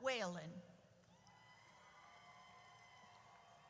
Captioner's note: audience cheers